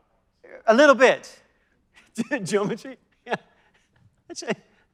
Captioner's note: laughs